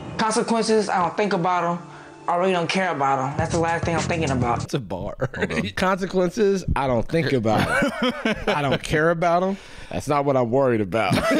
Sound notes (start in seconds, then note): 5.0 chuckles